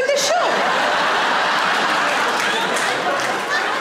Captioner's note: audience laughing